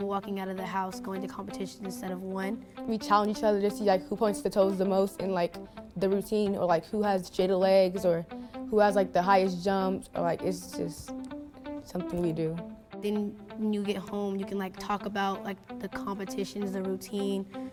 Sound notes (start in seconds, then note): none